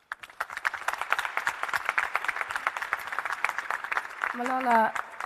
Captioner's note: audience and panel applauding